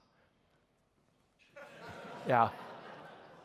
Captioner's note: laughter